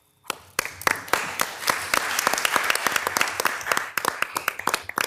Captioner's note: participants clapping